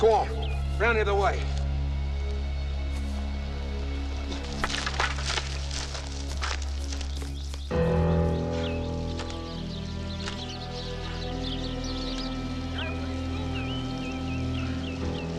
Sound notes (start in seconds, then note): 4.8 leaves rustling; 7.8 brief menacing music; 8.6 moves to low tense music